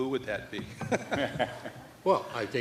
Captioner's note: laughter